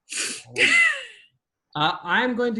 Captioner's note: laughs